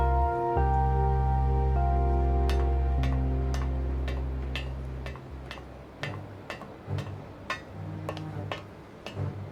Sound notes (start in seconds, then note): 2.6 metal clanking; 4.0 footsteps thudding